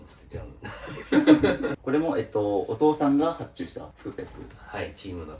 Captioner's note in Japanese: 笑い